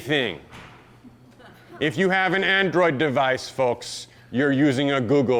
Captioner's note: audience laughs